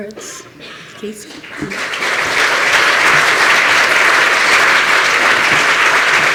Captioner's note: applause